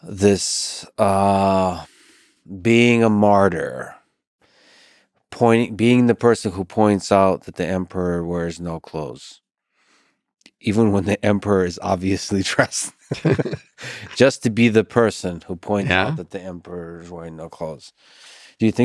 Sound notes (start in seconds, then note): 13.0 Robin and Lex chuckle